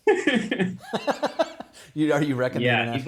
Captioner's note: both laughing